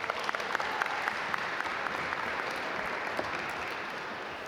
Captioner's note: audience applaud